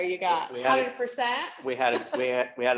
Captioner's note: chuckles